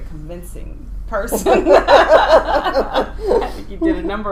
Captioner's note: laughing